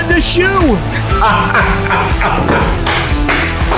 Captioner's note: laughing; clapping